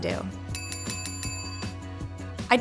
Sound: bell rings

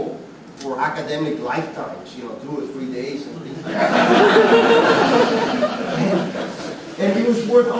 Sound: student laughter

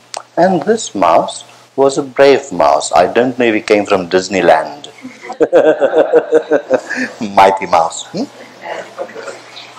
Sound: laughter

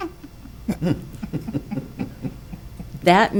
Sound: people chuckling

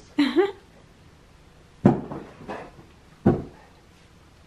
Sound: laughs

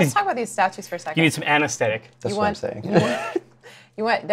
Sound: laughs

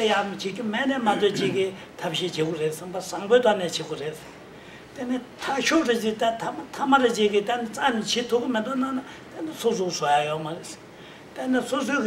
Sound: speaking in foreign language

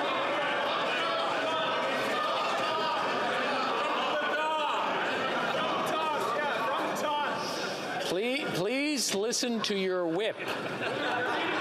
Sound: yelling

